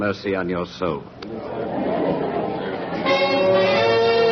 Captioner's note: Noise of crowd